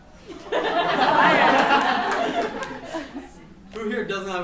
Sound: laughs

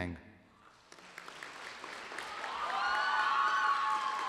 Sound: applause

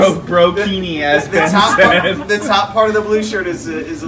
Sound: laughter

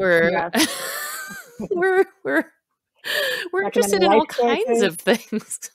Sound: laughs

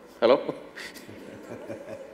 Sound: both Laugh

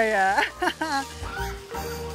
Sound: laughs

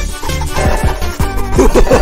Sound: sprinting noises; maniacal laughter

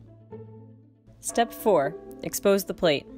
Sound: gong chimes

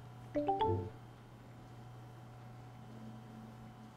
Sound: electronic chiming

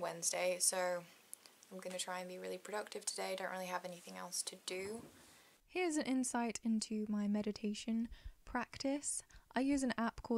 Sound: voiceover

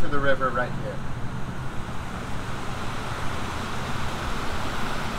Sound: water whooshing

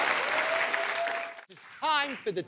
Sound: cheers and applause

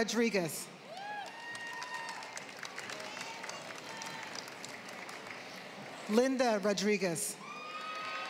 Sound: applause

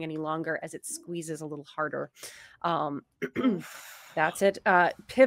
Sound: clears throat

